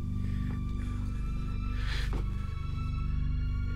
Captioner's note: continues breathing heavily